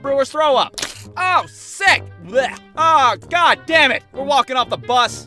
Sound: bleurgh

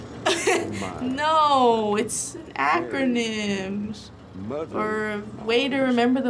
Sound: laughs

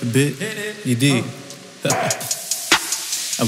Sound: laughing

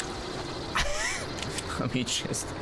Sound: laughs

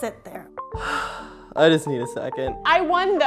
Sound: sigh

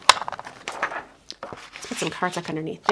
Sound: card stock fluttering

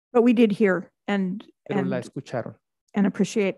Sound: speaks Spanish

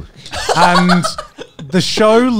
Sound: laughing

